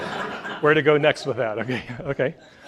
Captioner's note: audience laughs